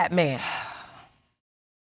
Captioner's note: sighs